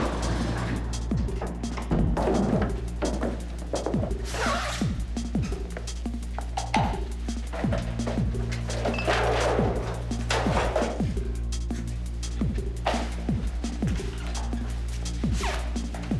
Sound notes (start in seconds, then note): 0.0 doors opening, dark sounds; 7.5 clong